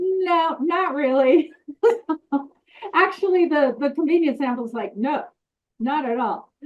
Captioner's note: laughs